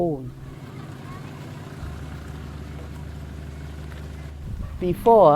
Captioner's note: truck engine roaring